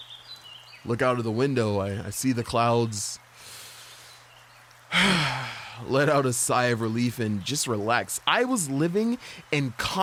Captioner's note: sigh